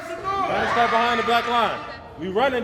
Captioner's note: children scream and shout